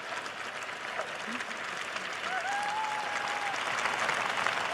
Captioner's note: applause